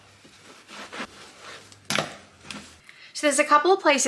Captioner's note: wiping sounds; bag clicks shut